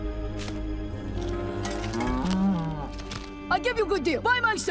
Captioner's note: cows mooing